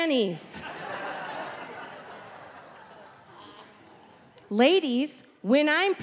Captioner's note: audience laughing